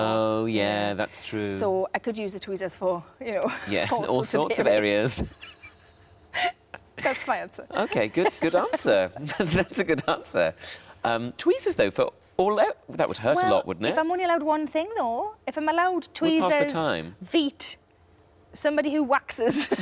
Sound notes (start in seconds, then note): 5.1 laughs; 9.7 laughs